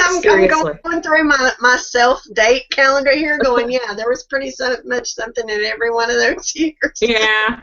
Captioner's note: laughing